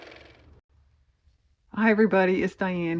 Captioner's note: car motor